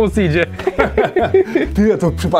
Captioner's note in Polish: Śmiech Antka i Szwagra